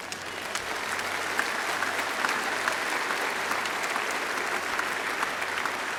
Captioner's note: applause